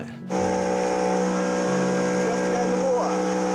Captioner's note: outboard droning